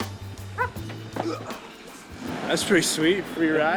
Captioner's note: grunting